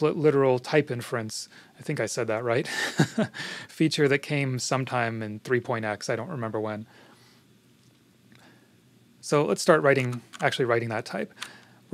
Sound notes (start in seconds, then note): 2.6 chuckles